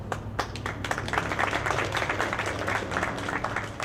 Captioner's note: audience clapping